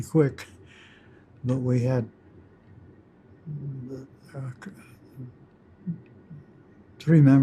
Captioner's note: chuckles